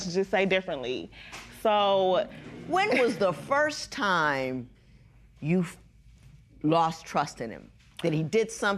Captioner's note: spectators murmur